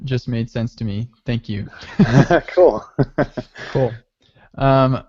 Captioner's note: laughing